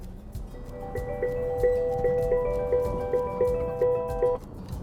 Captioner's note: phone ringing